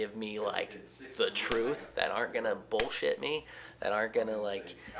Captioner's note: slaps hand